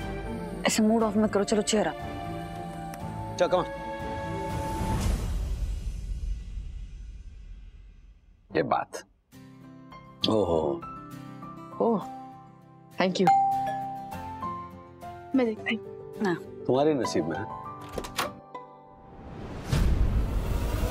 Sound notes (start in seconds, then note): 13.3 doorbell rings; 19.5 suspenseful music playing